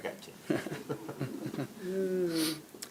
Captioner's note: laughter